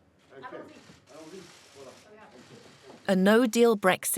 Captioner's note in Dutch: spreekt in vreemde taal